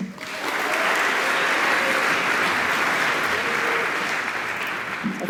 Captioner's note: applause